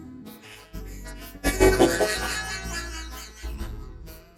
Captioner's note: wheezing